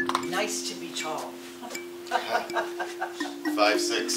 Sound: laughing

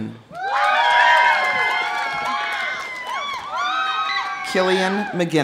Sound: audience cheering; audience applauding

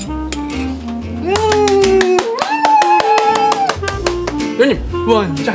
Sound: applaude

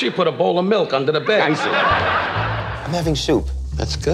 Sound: laughing

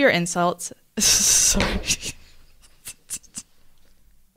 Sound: laughs

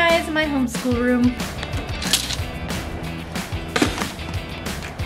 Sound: objects thudding

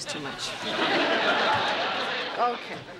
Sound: laughter

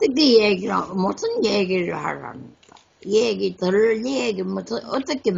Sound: speaks in foreign language

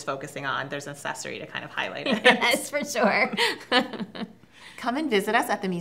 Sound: both laugh

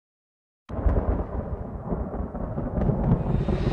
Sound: thunder crashing

